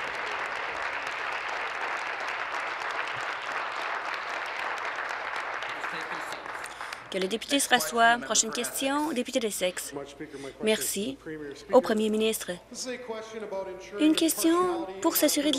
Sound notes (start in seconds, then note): 2.8 applause